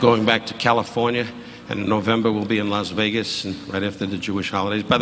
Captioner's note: audience laughing